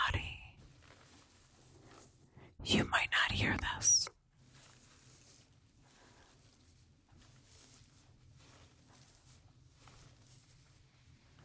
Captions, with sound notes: You might not hear this. [fur rustling]